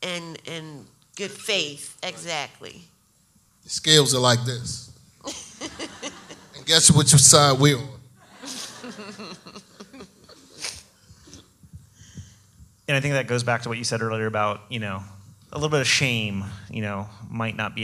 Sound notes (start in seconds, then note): 5.3 audience laughs; 8.3 laughs